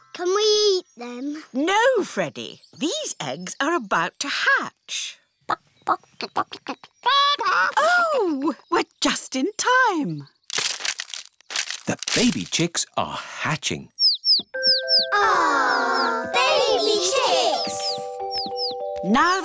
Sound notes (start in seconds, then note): 6.2 clucking; 13.9 chicks cheeping